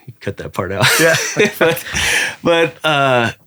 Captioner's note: laughing